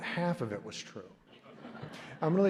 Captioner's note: laughter